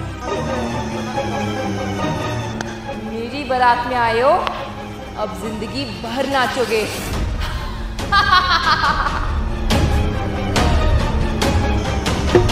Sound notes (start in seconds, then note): 8.1 laughing; 12.3 drumming